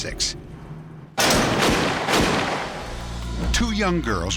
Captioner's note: gunshots